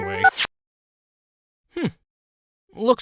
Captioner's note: beep- the phone stops ringing